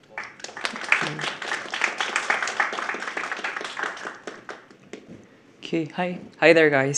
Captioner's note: applause